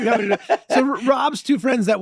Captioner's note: Glenn laughing